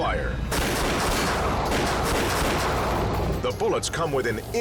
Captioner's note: gun shots